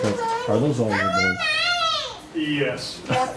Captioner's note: baby shouting